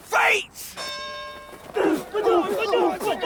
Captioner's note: bell rings; all grunting